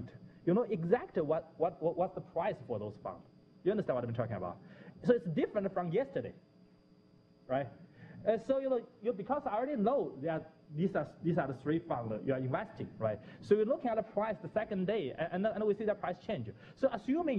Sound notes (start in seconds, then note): 6.7 pause